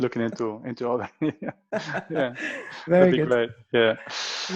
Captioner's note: laughter